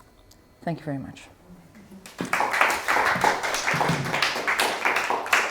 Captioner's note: applause